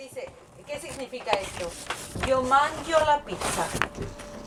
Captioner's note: Italian